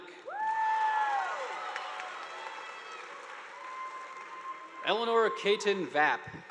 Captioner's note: students cheering; audience applauding